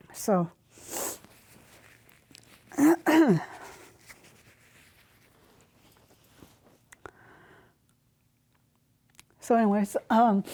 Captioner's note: she clears her throat